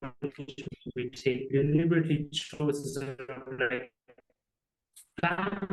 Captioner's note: audio distortion